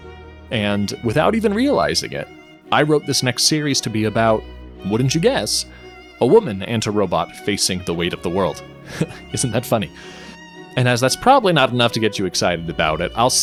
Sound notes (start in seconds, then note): 7.7 laughs